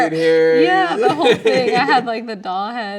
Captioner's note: laughing